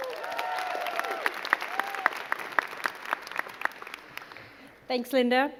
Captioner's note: crowd cheering and clapping